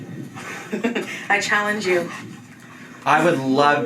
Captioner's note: laughs